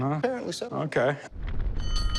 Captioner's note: fire alarm dings